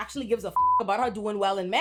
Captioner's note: beep